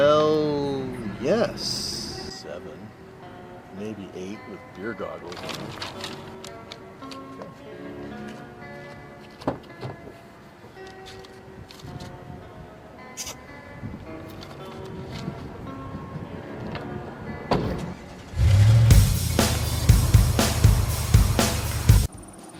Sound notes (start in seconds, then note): 8.7 car door opening; 17.9 engine starting; 18.8 lively rock music